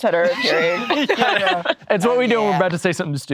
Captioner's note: all laughing